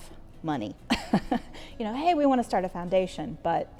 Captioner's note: laughing